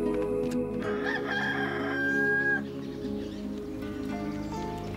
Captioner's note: rooster crowing; upbeat music